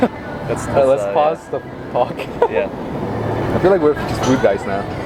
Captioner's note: laughter